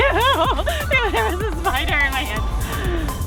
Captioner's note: laughs